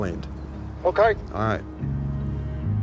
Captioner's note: on phone